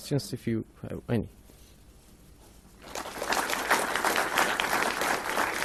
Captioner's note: crowd applauds